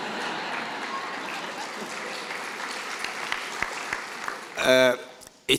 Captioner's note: applause